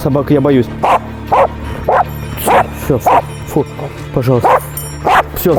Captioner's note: barking